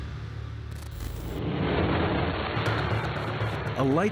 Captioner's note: engine roaring